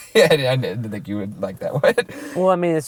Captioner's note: voiceover